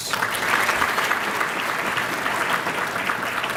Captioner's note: applause